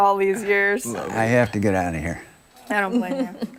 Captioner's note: laughter